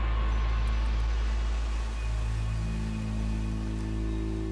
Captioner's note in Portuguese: som de líquido